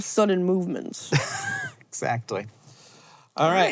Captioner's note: HANK wheeze-laughs